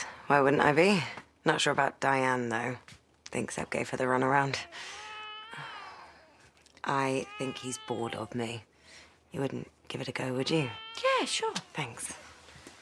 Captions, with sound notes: Why wouldn't I be? Not sure about Diane, though. Thinks I gave her the run around. *Seb cries and Rebecca sighs* I think he's bored of me. You wouldn't give it a go, would you? -Yeah, sure! -Thanks.